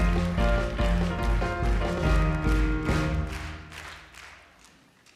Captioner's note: audience claps along to song